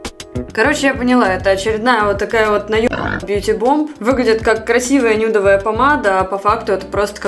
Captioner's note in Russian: хрю